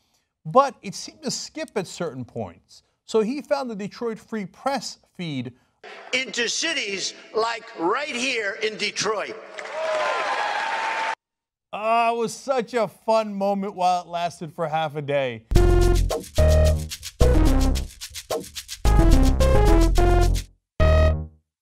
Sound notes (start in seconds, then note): 5.9 Donald Trump speaking